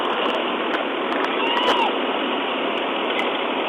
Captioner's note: screams